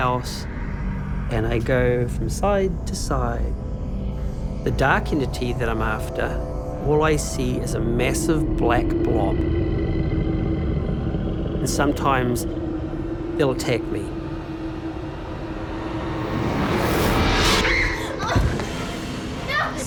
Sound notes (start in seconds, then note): 9.9 growling; 16.1 whooshing; 17.4 screams